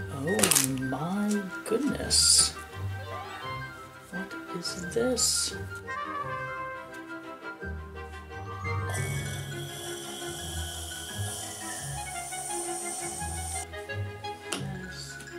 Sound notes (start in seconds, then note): 8.8 making weird excited sound with mouth